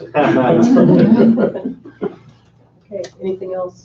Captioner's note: laughing